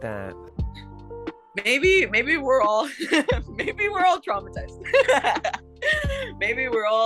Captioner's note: laughs